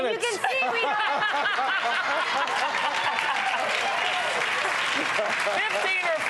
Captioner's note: laughing; audience clapping